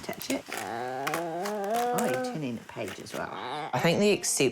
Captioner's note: groans softly